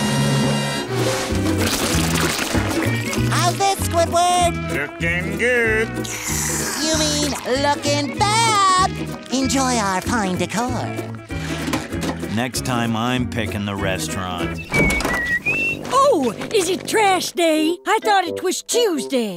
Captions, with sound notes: How's this, Squidward?! Looking good. You mean, looking bad. Enjoy our fine decor. Next time I'm picking the restaurant. [whistling] Oh, is it trash day? I thought it was Tuesday.